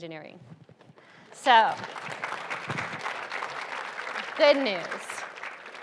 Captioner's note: audience applauds